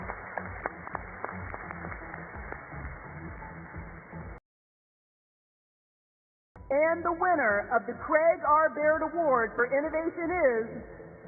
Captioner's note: applause